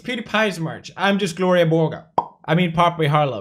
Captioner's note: pop